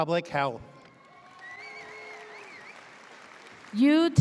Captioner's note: audience cheers